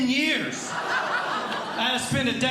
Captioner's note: audience Laughing